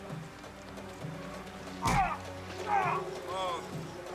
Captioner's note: man grunting